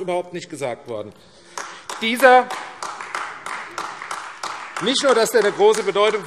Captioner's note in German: Beifall AfD